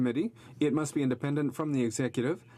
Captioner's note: speaking French